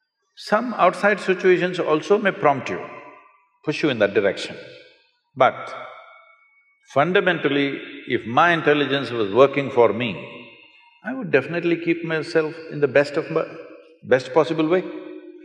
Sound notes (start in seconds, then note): none